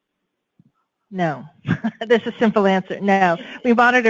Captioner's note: chuckles